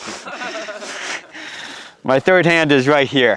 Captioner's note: group laughs